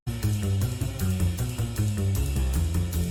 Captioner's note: none